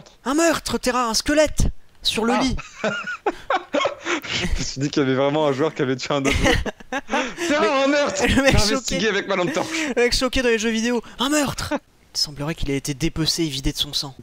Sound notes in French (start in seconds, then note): 2.3 rire